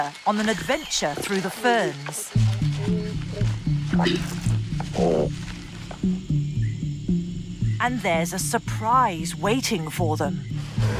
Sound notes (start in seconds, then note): 2.4 leaves rustling